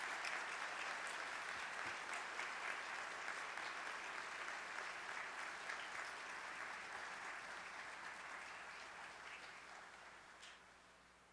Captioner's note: applause